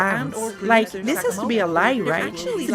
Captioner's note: multiple voices rambling